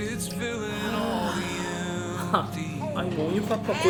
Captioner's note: sigh